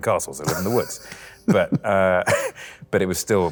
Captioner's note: both laugh